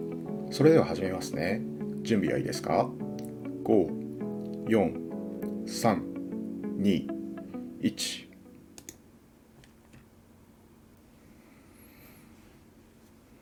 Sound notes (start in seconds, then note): none